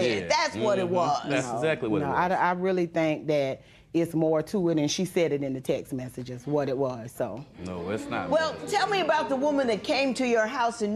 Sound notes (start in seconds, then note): none